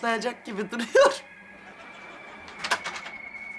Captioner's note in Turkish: Gülme efekti